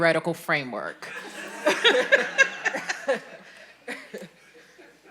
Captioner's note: all laughing